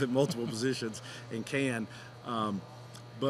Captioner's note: both chuckling